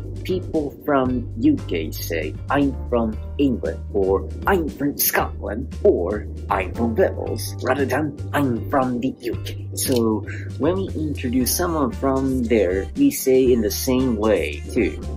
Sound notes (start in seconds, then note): 3.8 in a British accent